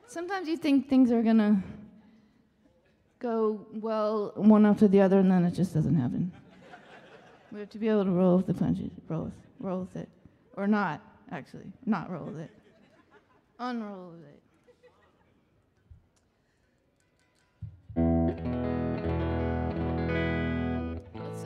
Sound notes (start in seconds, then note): 6.4 audience laughing; 12.3 audience laughing; 14.6 audience laughing; 17.7 light guitar music